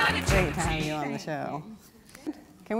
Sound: applause

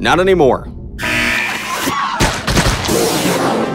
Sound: screaming

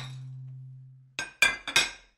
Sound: dishes Clatter

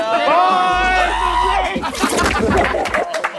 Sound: contestants indistinctly cheering; contestant screaming; contestants laughing and clapping

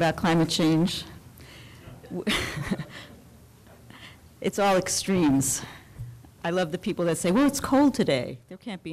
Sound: laughs

